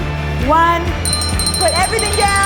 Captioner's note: bell rings